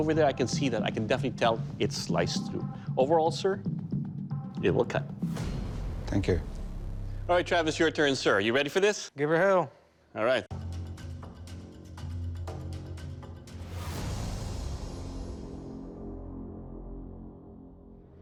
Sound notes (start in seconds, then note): none